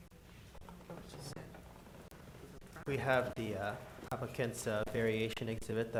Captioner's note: board chatting quietly